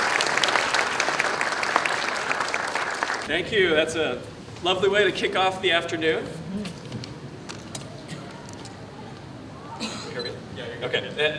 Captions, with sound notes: [ APPLAUSE ] THANK YOU THAT'S A LOVELY WAY TO KICK OFF THE AFTERNOON.